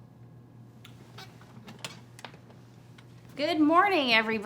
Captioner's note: chair squeaks